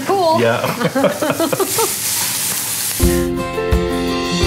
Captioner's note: chuckling; lively music